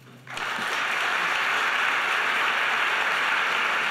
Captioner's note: audience applause